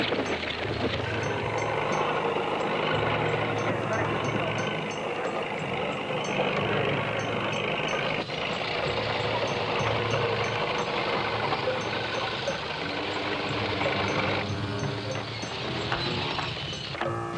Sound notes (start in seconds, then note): 1.3 vehicles rumbling; 12.6 vehicles rumbling continues